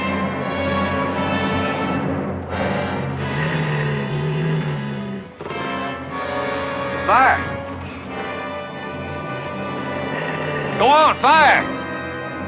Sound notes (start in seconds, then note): 3.5 growling